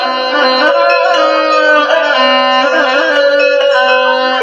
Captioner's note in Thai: ปรบมือ